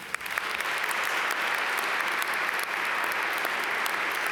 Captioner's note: audience applaud